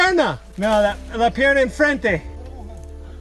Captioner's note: in Spanish